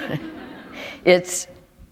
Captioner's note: laughter